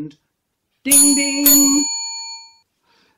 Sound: ding ding

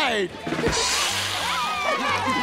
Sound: hissing; laughing

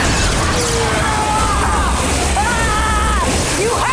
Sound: screaming

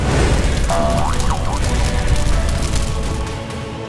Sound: rubber goes boing

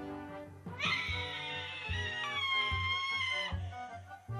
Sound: screams

